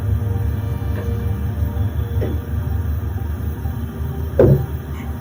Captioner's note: footsteps clopping